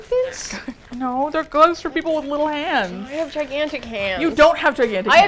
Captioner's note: indignantly